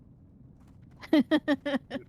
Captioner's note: laughs